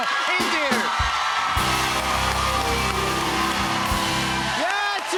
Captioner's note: cheers and applause